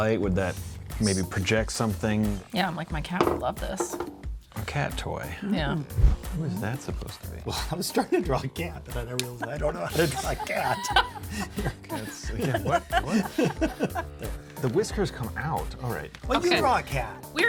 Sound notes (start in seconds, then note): 9.0 laugh; 13.1 laughing